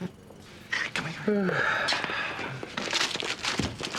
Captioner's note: Nash sighs